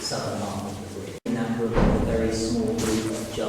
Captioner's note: bang